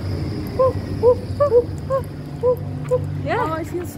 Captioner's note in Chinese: 又是一陣鬼吼鬼叫